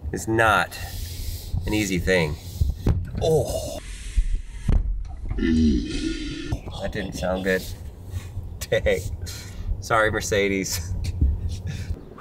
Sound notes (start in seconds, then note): 5.3 man groans; 10.7 man chuckles